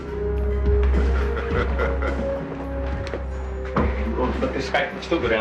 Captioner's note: Justice laughing